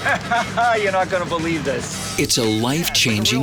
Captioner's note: laughs